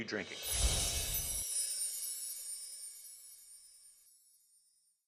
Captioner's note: chimes tinkling